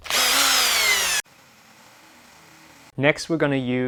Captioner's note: drill whirring